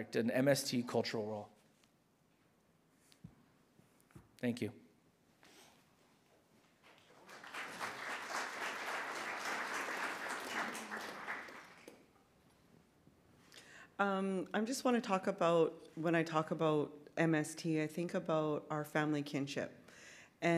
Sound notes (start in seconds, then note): 6.8 audience clapping